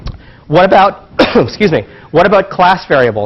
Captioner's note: cough